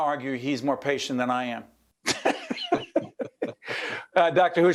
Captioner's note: laughing